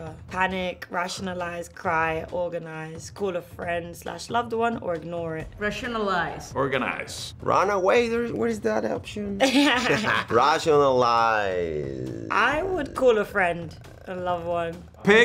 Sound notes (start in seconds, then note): 9.4 Letitia laughs